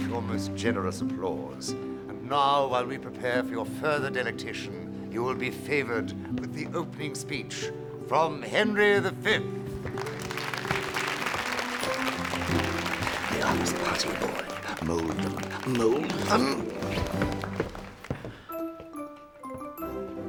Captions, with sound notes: for your most generous applause. And now while we prepare for your further delectation, you'll be favored with the opening speech from Henry V. (applause) The arms parting, boy. Mold them, mold them! (enchanting music)